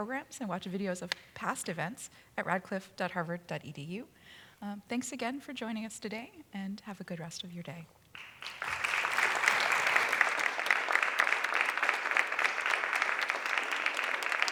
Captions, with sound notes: and watch videos of past events at radcliffe.harvard.edu. Thanks again for joining us today, and have a good rest of your day. [applause]